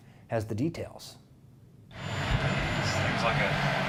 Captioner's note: engine revving